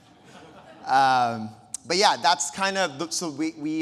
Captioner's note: audience lauhing